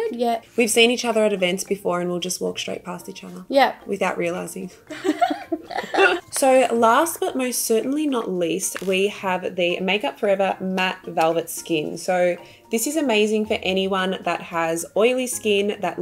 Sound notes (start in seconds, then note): 4.9 giggling